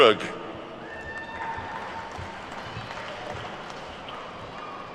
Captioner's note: attendees clapping